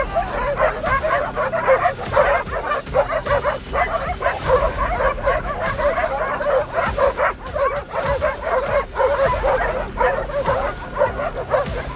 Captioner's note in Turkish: Havlama sesleri ve tansiyon müziği sesi